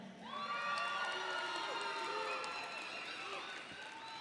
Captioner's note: audience cheering